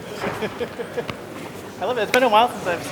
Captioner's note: laughter